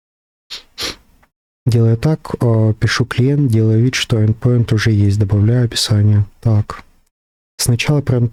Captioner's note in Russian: фыркает